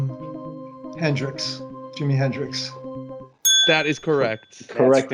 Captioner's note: bell dings